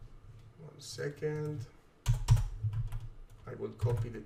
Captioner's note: keyboard clacking